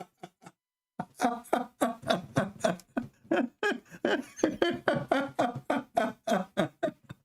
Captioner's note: Ketawa